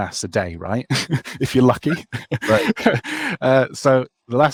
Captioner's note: laughs